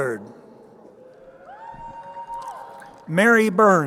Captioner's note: crowd cheering